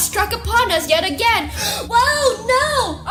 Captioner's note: gasp